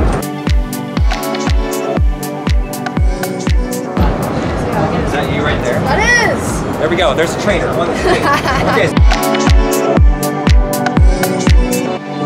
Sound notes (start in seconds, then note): 0.0 upbeat music; 7.6 assistant laughs; 9.5 upbeat music